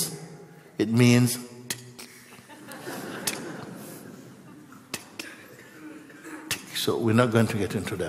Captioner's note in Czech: smích